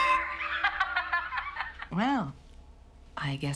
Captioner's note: Tiffany laughs